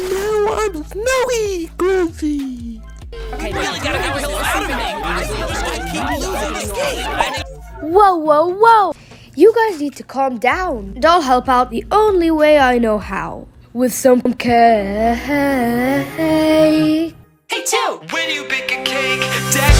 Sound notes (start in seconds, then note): 3.2 fighting, yelling